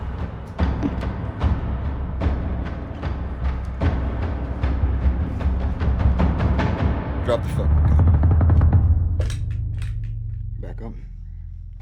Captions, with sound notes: (suspenseful music continues) - Drop the fucking gun. (gun clattering) Back up.